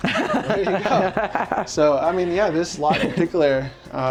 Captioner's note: both laughing